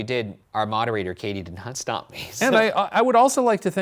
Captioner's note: laughing